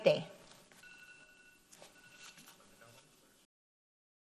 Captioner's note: bell ringing